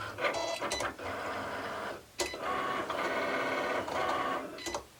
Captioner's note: machine working